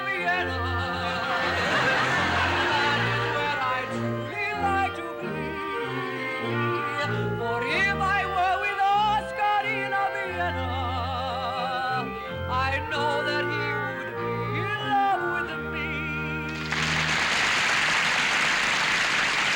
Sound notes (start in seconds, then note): 16.5 applause